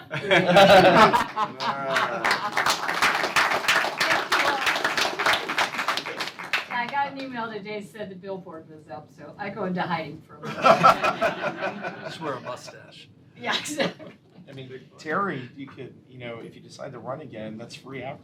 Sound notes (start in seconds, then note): 5.0 laughter